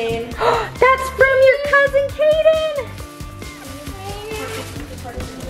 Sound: gasps

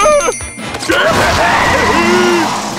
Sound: laughs

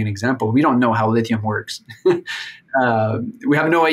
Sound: laughs

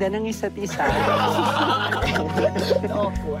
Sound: laughter

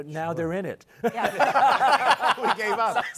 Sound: laughter

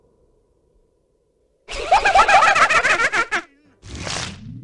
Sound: Majora's Mask laugh

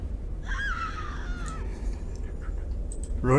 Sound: screams

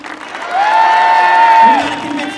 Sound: audience cheering

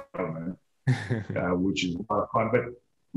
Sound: chuckles

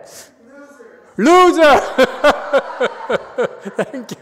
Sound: laughs

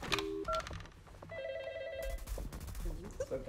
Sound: phone ringing

